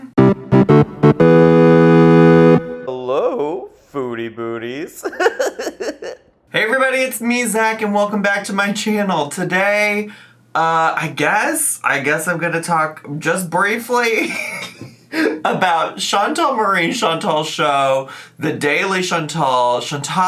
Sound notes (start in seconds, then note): 0.0 upbeat music; 4.8 laughs; 14.2 laughs